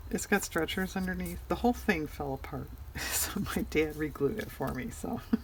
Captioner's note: laughs